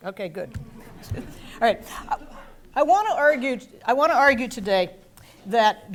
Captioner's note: laugh